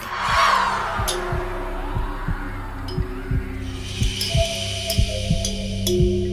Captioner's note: eerie pensive music; heartbeat pulsing